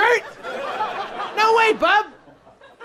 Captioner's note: people laughing